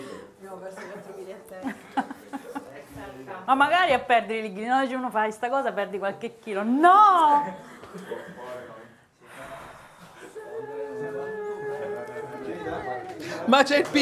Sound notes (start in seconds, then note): 1.6 Risate